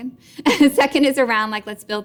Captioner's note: laughing